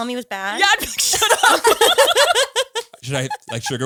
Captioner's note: laughs